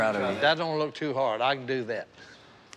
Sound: cracking

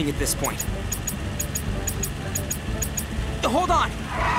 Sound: pinging; tires screeching

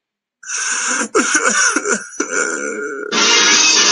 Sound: Dark Jacob Cries like a Baby

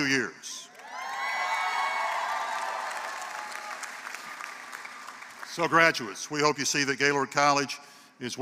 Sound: applause

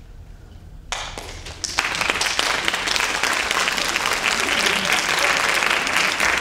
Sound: audience applauding and cheering

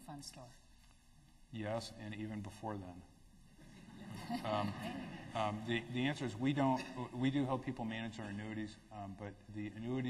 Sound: laughter

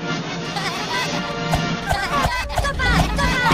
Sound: Minions Laughing

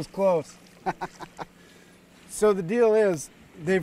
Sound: chuckling

